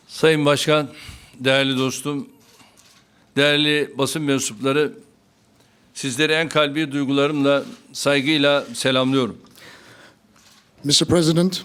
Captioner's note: speaking Turkish